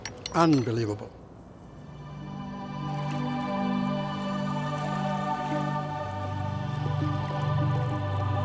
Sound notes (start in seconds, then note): 1.6 ambient music; 2.4 water rippling